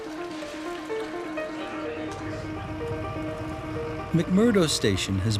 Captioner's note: kitchen sounds; caterpillar driving